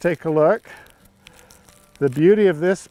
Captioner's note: rustling sounds